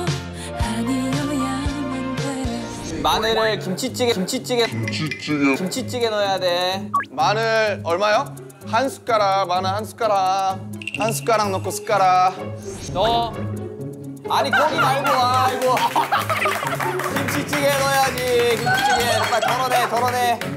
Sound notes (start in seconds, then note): 14.4 laughing out loud